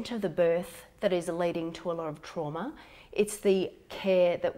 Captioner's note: none